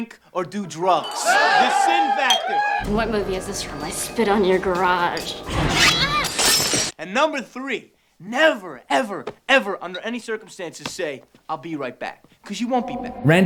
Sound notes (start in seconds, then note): 5.5 Tatum grunts; 5.7 glass shatters